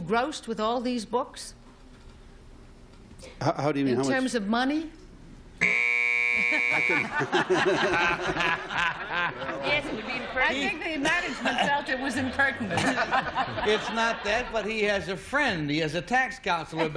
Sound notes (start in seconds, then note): 7.1 buzzer; 8.1 laughter